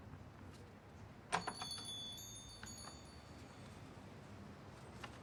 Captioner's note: shop door bell jingles